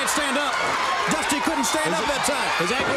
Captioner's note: crowd cheering